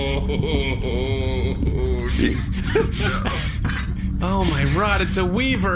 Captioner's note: laughing; groaning